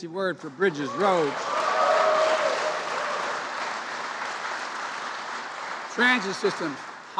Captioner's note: applause